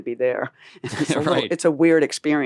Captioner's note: laughing